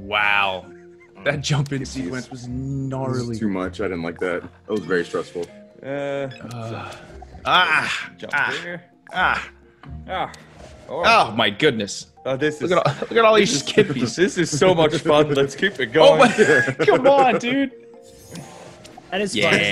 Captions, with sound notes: >> Wow. That jumping sequence was not- >> That's too much, I didn't like that. It was very stressful. >> Aah, aah, aah. My goodness. >> This is- >> You are always kidding me. This is so much fun. [LAUGH] Let's keep it going. >> Come on dude and it's fine.